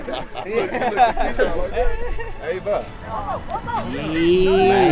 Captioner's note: laughter